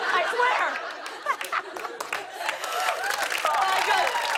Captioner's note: cheers and applause